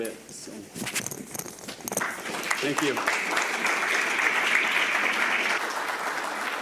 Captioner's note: audience clapping